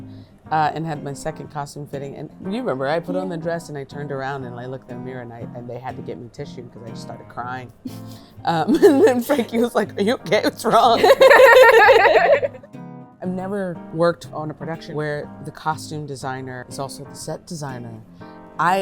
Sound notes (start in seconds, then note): 10.7 laughs